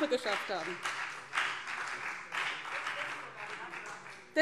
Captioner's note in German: Beifall BÜNDNIS 90/DIE GRÜNEN und vereinzelt CDU